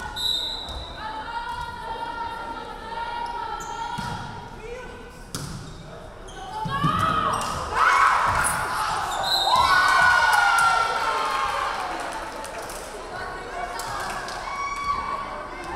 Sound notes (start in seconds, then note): 0.1 referee whistling; 7.7 crowd cheering; 9.2 referee whistling